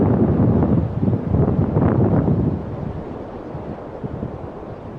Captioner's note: wind blowing